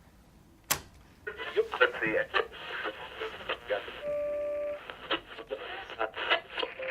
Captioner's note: click; radio chatter, static